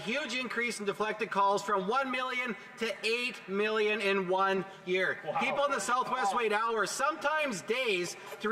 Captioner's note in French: voix de l'interprète